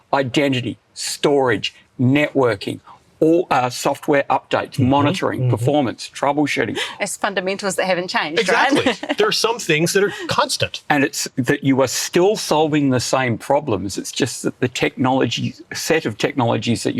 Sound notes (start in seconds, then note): 8.4 chuckles